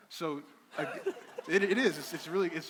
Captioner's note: crowd laughing